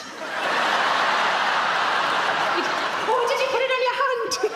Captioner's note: audience laughs